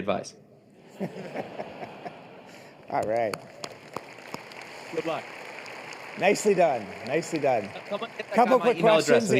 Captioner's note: laughter